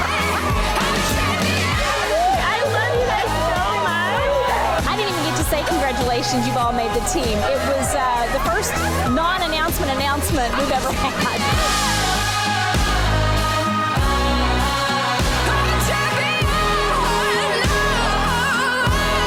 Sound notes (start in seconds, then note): 0.0 laughs; 11.2 laughs; 11.5 upbeat music